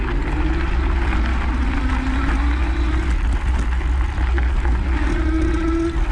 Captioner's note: bicycle electric motor roaring